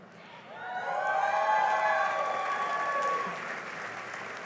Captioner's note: cheering and applause